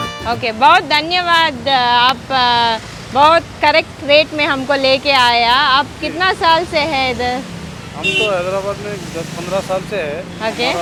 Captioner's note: talking in Hindi